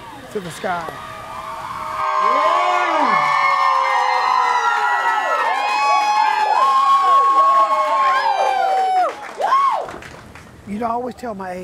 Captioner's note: cheering and screaming